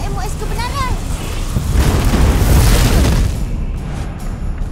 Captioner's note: boulders keep booming echoingly